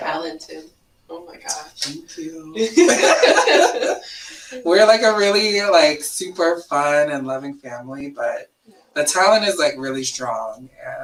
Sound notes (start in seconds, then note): 2.5 laughs